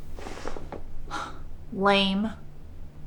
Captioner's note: scoffs